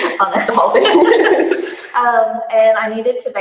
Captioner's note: laughter drowns out speaker